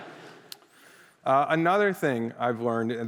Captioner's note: laughter